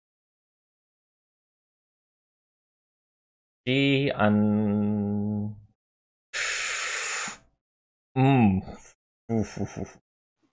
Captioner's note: loud sucking noise